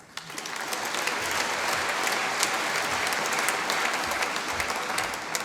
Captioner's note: applause